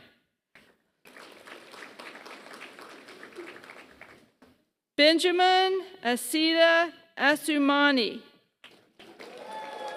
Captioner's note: applause; applause